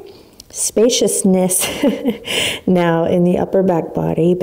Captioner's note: laughs